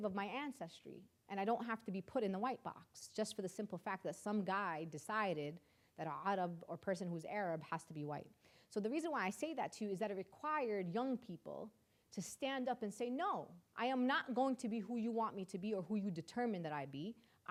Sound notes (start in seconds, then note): none